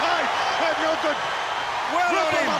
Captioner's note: crowd cheering